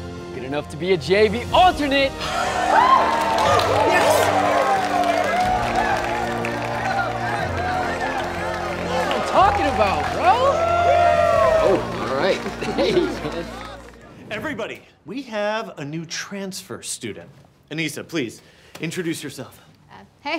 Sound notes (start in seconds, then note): 2.6 crowd cheers and applauds; 11.1 crowd cheers